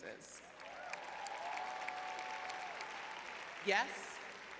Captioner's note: cheering